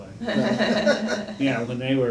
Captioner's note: laugh